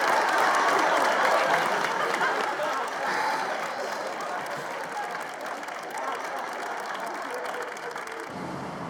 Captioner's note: audience clapping and laughing